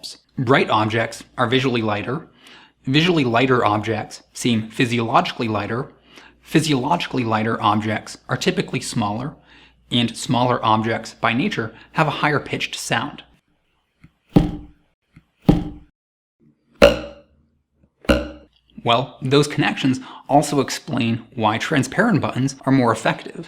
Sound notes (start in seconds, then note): 14.0 low pitch; 16.6 high pitch